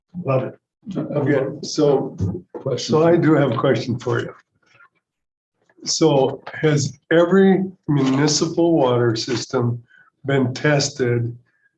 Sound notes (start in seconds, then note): none